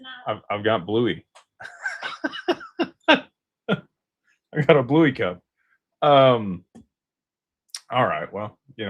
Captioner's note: laughter